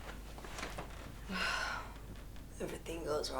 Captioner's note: sighs